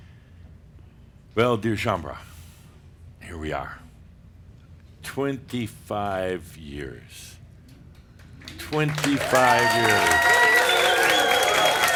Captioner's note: cheers and applause